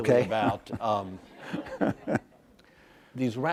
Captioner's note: laughs